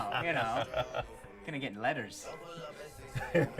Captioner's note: laughing